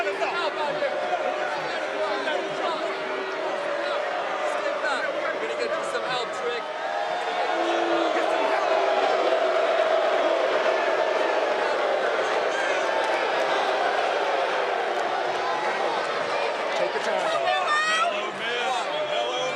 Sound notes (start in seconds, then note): 1.1 yelling; 8.6 crowd boos